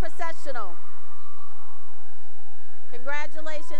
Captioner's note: cheering